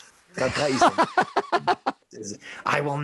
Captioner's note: laughing